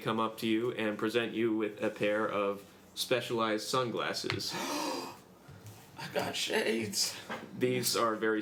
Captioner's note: gasps